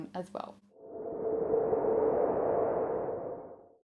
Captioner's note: swooshing sound fx